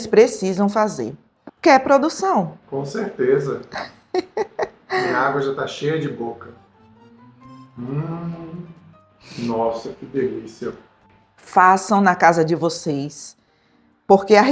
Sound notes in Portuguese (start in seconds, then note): 3.7 risadas